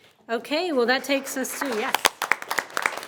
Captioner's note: audience applauding